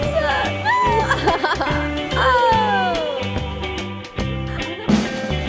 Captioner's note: laughs